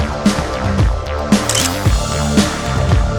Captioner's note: photo Click